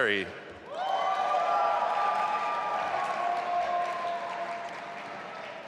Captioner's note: audience applauding